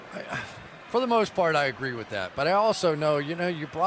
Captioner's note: sighs